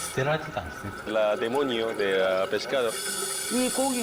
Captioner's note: Spanish